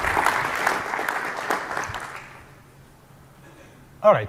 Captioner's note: applause